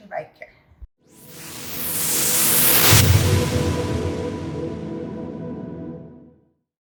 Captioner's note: whooshing